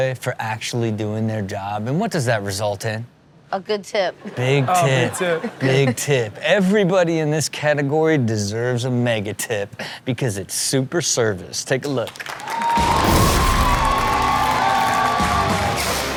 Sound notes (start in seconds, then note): 12.1 audience cheering and applauding; 14.0 rock music